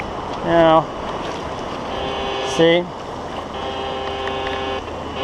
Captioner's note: detector buzzes